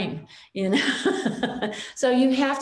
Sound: chuckles

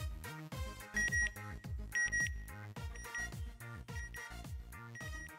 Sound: beeping

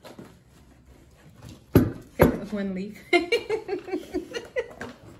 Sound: laughter

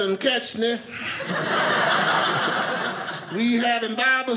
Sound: audience laughing

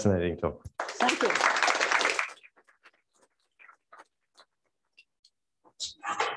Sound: applause

